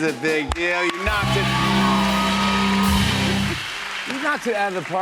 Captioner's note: cheers and applause